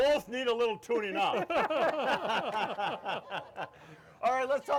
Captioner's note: all laughing